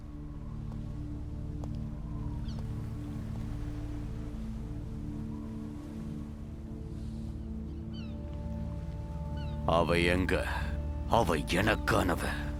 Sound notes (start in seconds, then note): 1.9 wind Howling